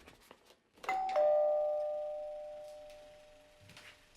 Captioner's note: doorbell